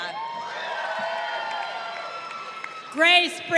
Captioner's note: crowd cheering